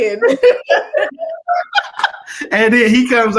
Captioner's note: laughter